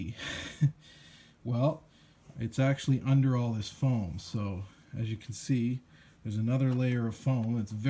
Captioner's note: heh